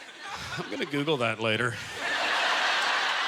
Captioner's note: audience laughter